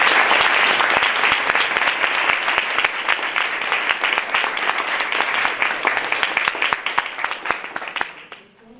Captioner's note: applause